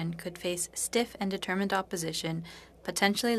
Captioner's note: speaking French